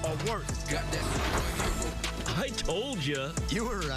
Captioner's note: drops car with a loud crash